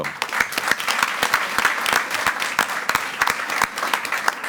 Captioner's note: all applauding